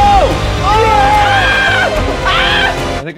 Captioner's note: group cheering and screaming